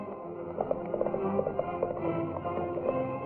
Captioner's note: horse galloping